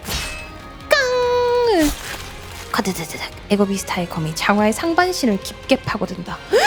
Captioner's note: clang